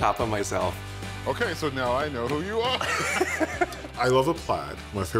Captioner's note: chuckles